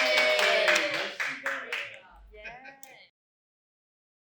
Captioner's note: film team applauds